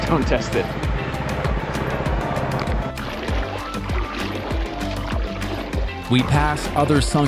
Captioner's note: upbeat music continues; water splashing